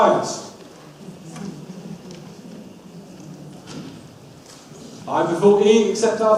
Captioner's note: audience murmurs